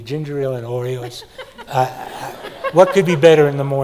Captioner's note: laughs